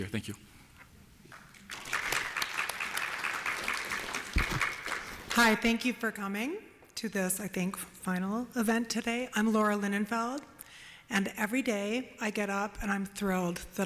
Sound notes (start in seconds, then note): 1.3 applause